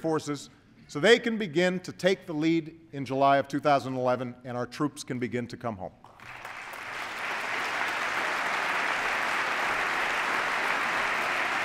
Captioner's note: applause